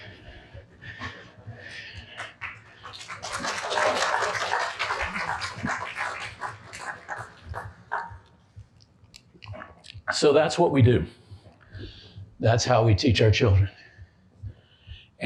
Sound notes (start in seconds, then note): 2.0 applause